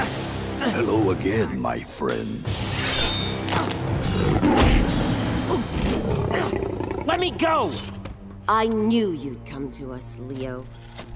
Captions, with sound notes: Hello again, my friend. [snarling] Let me go. I knew you'd come to us, Leo.